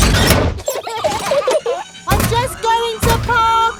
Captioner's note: children giggling